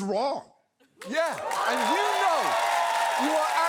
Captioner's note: crowd cheers